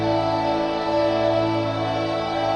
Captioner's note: none